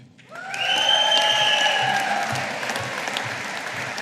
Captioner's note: audience applauding